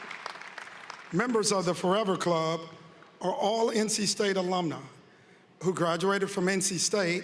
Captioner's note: appuse